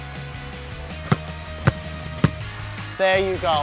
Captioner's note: ball pounding